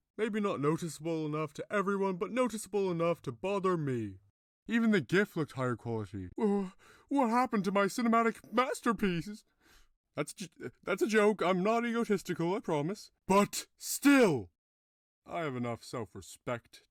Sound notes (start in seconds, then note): 6.3 scared; 9.5 breath